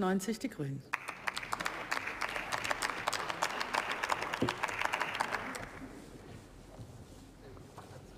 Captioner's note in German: Beifall